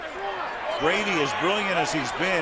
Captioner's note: onfield chatter